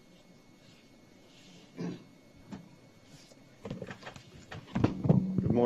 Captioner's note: audio interruption